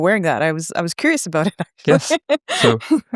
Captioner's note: chuckles